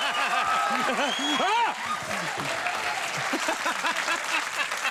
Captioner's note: audience cheers; exclaims; Conan laughs